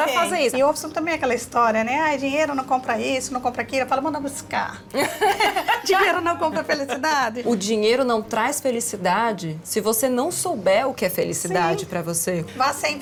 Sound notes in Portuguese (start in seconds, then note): 4.9 risos